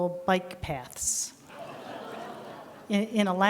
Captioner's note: laughter